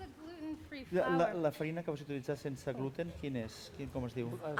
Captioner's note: non-english speech